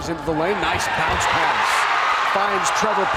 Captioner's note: crowd cheers